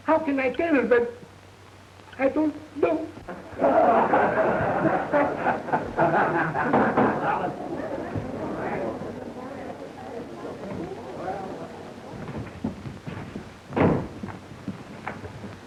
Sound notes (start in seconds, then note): 3.4 audience laughs